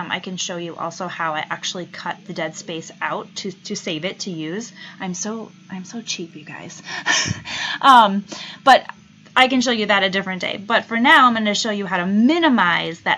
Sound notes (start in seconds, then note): 6.8 laughs